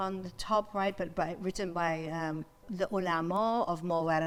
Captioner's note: speaks in foreign language